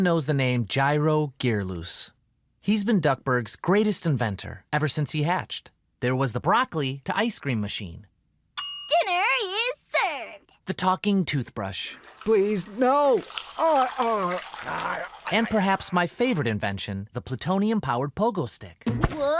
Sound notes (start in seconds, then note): 8.5 ding; 12.0 brushing; 18.4 pogo stick bouncing